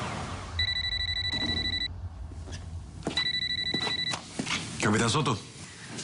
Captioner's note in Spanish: Suena el celular